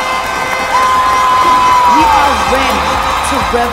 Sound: cheers and applause

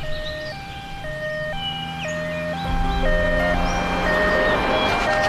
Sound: ambulance

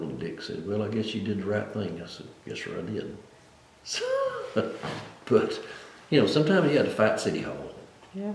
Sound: laughs

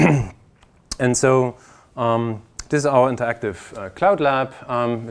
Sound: cough

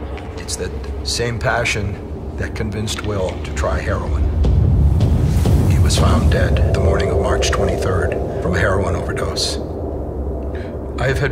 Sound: boom, boom, boom, boom

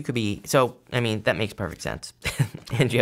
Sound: chuckles

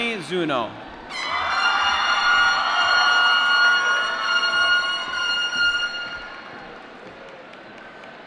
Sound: cheering

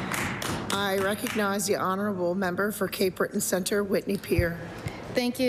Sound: applause

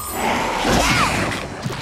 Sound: screaming

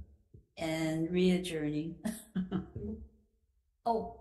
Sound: chuckles

